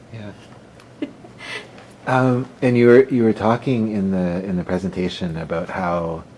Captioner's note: laughter